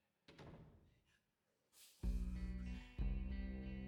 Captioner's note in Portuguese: door closing